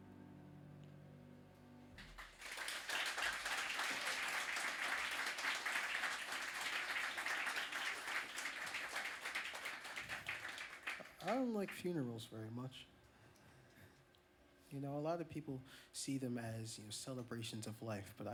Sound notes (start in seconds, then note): 2.0 applause